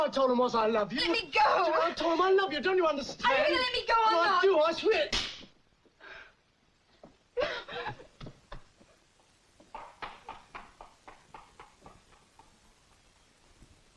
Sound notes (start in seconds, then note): 5.1 hand slaps; 7.5 Jenny crying; 10.2 footsteps clicking